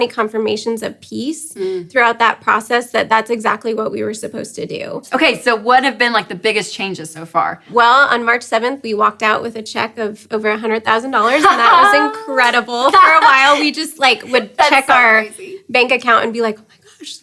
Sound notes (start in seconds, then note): 11.3 claps and laughs